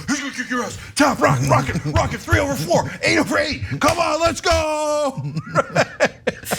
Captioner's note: laugh